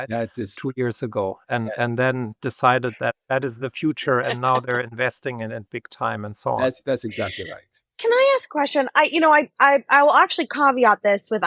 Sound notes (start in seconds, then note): 6.5 laughs